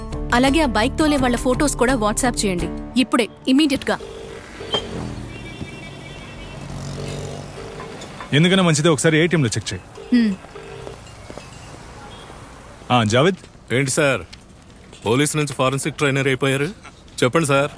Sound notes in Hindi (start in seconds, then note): 3.7 लाइन बज रही है